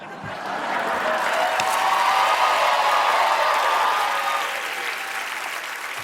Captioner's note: cheers and applause